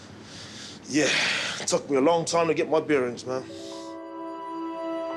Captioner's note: sighs